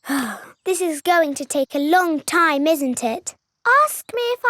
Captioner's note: sighs